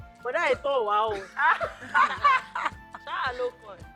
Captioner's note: everyone Laughs